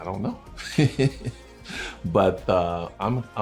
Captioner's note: laughing